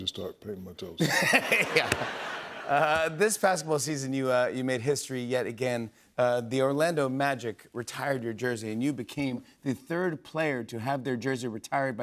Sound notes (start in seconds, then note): 1.0 laughter